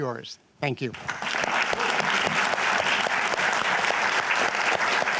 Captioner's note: applause